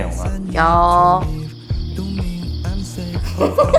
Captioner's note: talking